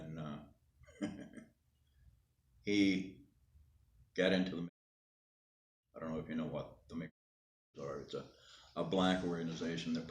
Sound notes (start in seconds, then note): 0.9 laughing